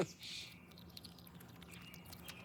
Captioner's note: chuckling; birds singing